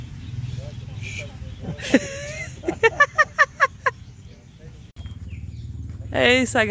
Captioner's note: laughs